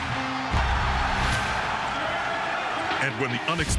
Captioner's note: rock music; cheering